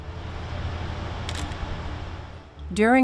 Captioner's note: camera clicking